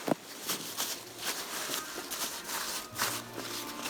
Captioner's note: fabric rustling